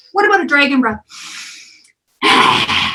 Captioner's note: deep breathing and exhaling